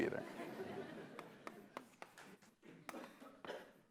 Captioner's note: laughter